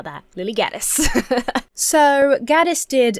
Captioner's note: laughs